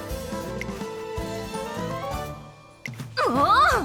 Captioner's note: expectant noises